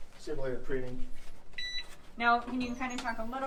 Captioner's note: sensor beeps